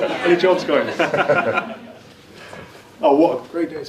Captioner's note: laughs